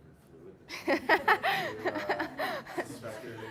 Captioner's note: audience laughing